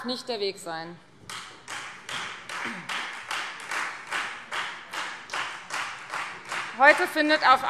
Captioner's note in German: Beifall Freie Demokraten